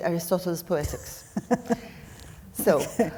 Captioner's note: laughing